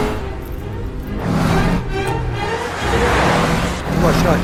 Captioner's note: car passing in high speed